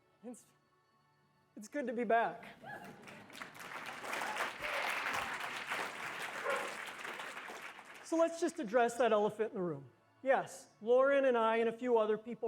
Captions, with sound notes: -It's good to be back. -[APPLAUSE] So let's just address that elephant in the room. Yes. Lauren and I and a few other people